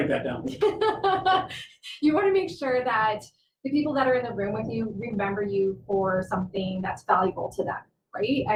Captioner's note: laughter